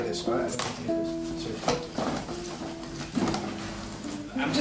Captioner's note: rifling in bag